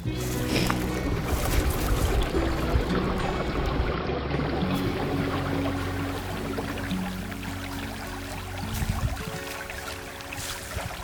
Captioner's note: sound of water